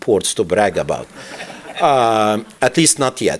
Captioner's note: laughter